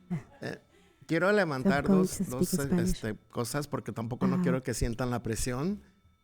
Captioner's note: speaking in Spanish